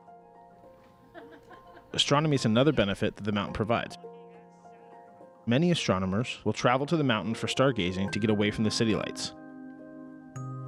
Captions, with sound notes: (woman laughing) Astronomy's another benefit that the mountain provides. Many astronomers will travel to the mountain for stargazing to get away from the city lights.